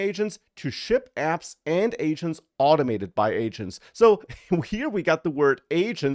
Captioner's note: laughs